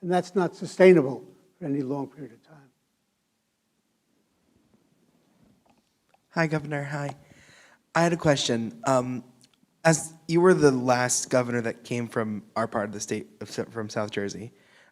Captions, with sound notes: and that's not sustainable for any long period of time. [silence] Hi Governor hi. I had a question. As you were the last Governor that came from our part of the state of south from South Jersey.